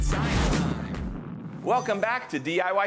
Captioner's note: rocket boosting